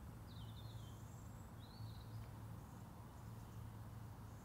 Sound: birds chirping

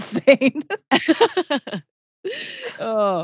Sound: laughs

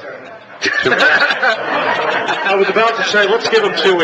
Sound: laughs

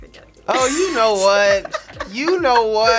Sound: both laugh

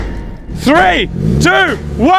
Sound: Dirty SR20 revving

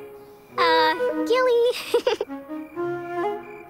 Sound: laughing

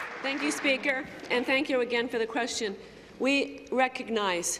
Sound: applause

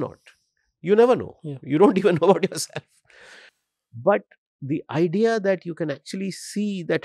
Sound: chuckles

